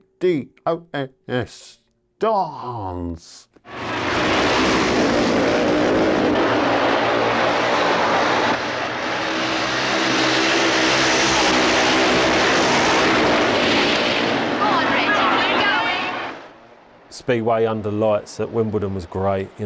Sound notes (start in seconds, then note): 3.7 bikes accelerating; 6.5 bikes droning; 14.6 shouts